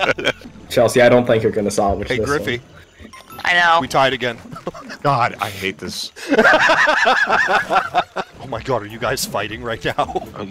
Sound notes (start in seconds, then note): 0.0 group laughter; 6.2 laughter